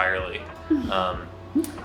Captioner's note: laughs